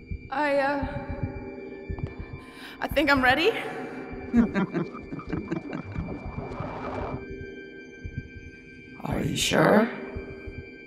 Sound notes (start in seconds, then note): 4.3 evil Laughing